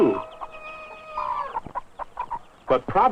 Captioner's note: rooster crows